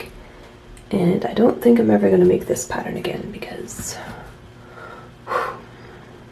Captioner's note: forceful exhale